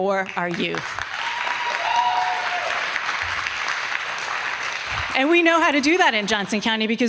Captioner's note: applause